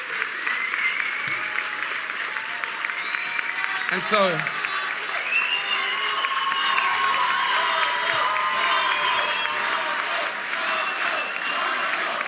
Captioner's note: applause